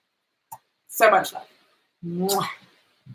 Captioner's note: lips smacking